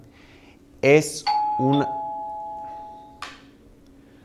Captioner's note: doorbell rings